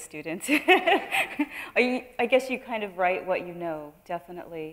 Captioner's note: laughing